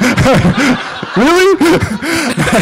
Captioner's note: laughter